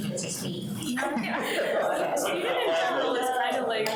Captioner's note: people laughing